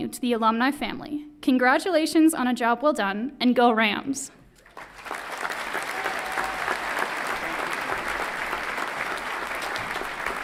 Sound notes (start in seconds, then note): 4.5 everyone clapping